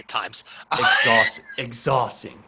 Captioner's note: laughs